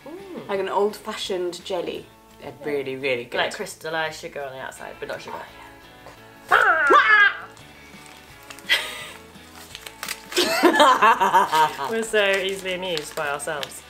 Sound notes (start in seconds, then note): 6.5 'Ninja' noises